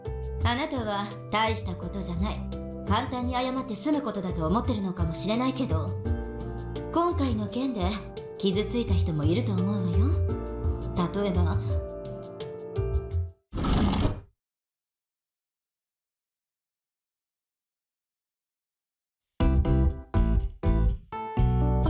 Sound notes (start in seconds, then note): 13.6 door slides open